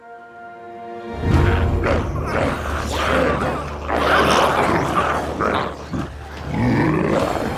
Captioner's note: gentle music; dramatic music; glowzies growling